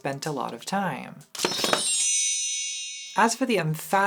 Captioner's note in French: carillons